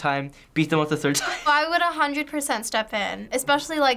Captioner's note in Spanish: risas